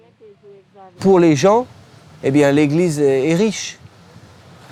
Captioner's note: French spoken audio